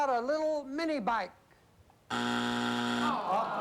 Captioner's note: buzzer; audience groans